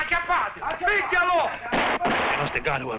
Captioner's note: guns firing